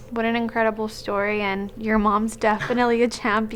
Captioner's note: chuckling